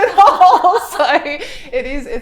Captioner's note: both laughing